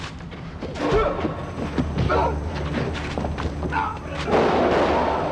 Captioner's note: grunts; thuds; gun bangs